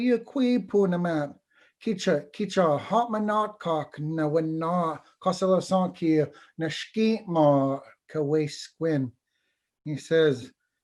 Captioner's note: foreign Language